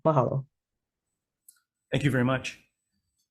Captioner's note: speaking in foreign language